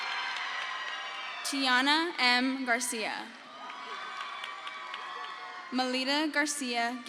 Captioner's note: crowd cheers